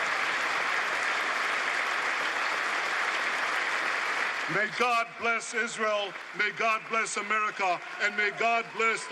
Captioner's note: applause